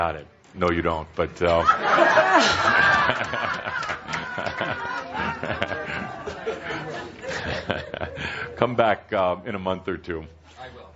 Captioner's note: laughter and chuckling